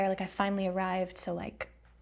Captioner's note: none